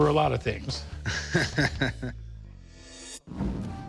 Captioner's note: both chuckle